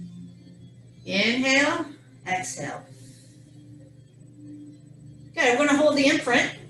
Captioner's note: exhales